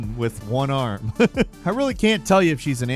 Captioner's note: person laughing